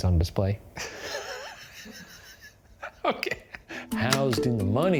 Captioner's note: laughing